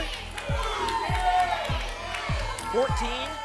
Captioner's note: audience shouting numbers